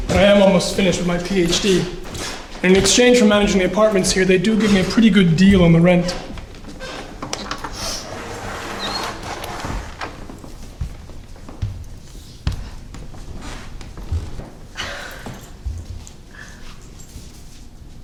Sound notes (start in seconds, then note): 7.4 object rustling; 10.8 footsteps approaching